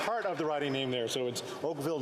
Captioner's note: applause